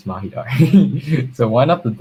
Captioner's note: laughs